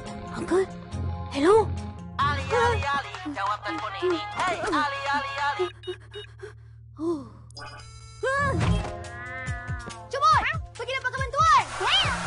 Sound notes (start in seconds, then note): 2.1 phone rings